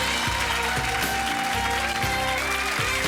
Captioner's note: audience cheering